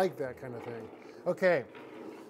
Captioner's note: wheels rolling